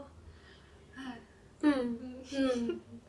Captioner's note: sighs dreamily